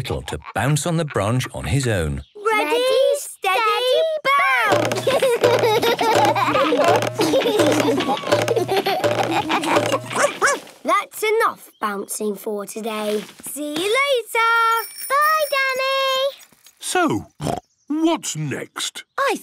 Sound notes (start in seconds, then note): 4.9 all laugh; 10.1 barks; 17.4 snorts